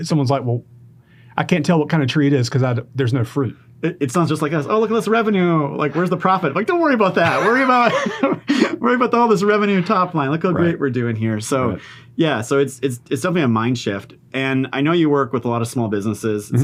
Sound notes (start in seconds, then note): 7.2 laughing